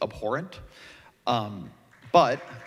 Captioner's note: applause